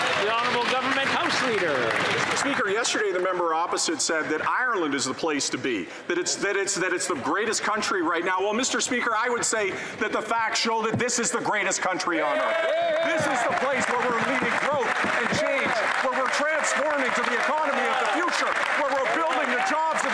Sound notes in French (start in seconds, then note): 4.9 voix de l'interprète